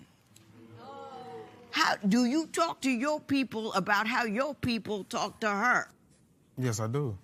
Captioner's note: audience oh's